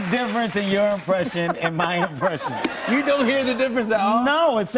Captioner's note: normal voice